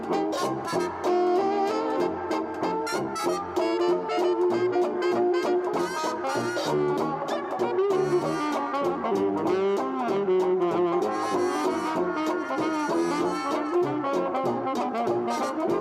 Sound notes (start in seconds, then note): none